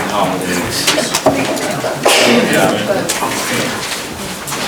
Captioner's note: crowd murmuring